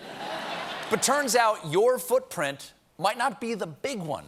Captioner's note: laughter